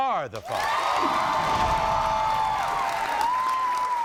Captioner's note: audience cheers